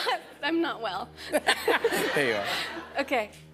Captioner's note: laughter